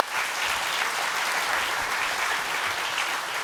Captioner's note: applause